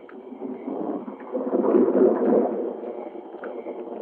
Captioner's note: thunder rumbling